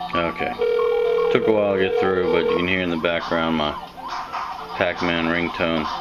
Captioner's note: pacman ringtone